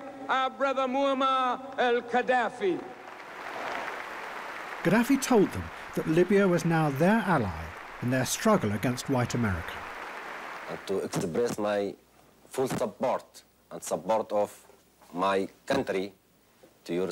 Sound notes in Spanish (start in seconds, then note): 2.7 aplausos